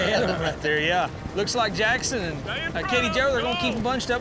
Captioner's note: laughing